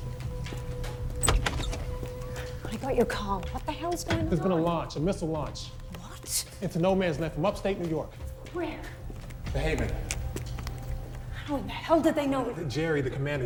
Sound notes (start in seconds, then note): 0.3 door creaking